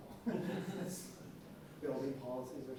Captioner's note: laughs